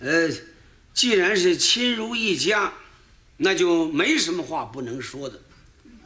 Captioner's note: speaking in foreign language